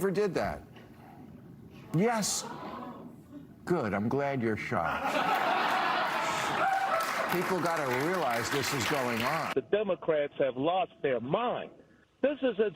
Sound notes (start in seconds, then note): 4.8 laughter